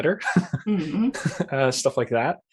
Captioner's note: laughs